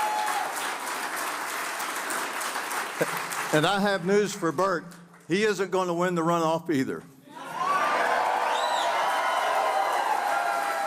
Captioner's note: applause